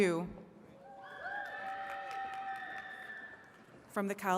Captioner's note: attendees cheering and clapping